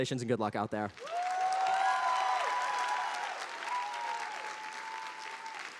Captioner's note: audience applauding